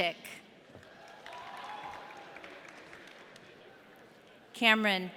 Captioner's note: audience cheering